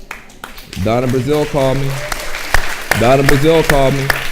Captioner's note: audience applauding